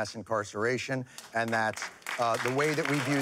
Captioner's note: applause